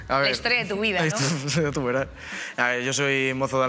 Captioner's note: laughs